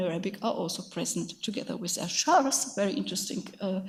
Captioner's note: speaks in a foreign language